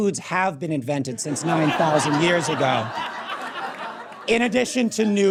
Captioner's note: audience cackles